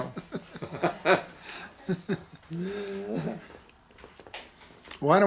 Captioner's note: laughing